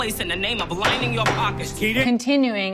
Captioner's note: gavel bangs